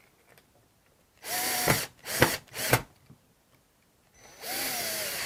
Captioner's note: screwdriver whirs